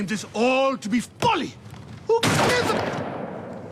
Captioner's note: gunshot